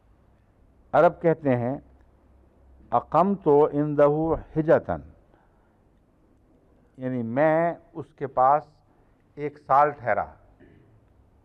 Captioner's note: Arabic